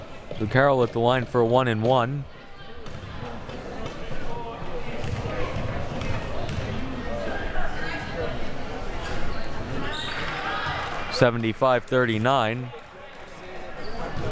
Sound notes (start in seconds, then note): 3.5 audience chattering